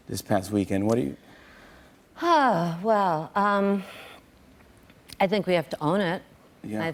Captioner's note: sigh